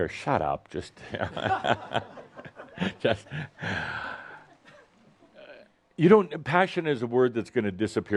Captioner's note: chuckles